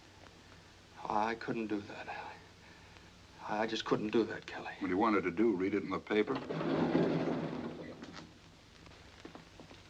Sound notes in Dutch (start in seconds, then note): 6.3 liftdeur gaat open